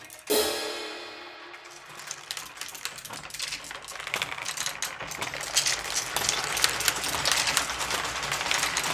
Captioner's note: ba-dum-tsss; marbles rolling